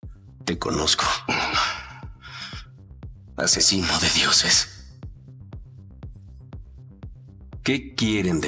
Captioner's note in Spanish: suspiro